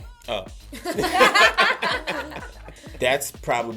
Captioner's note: laughter